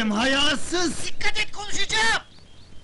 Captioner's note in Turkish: telsi̇zden ses geli̇r